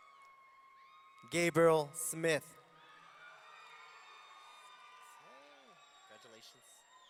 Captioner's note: audience cheering; audience cheering